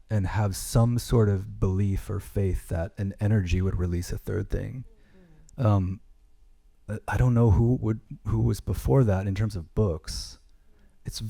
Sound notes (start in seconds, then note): none